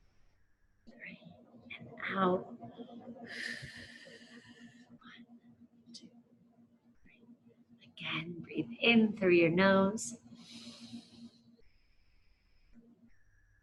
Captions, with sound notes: Three and out. (whispers) (exhales) One, two, three. Again breathe in through your nose. (inhales)